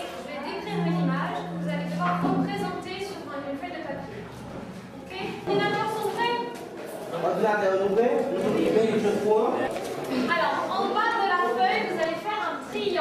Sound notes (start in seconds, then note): 6.9 speaking in French, Kreyol